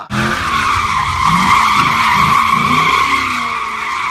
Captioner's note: tires screech